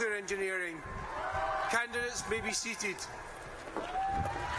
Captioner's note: applause